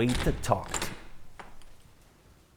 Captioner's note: door opens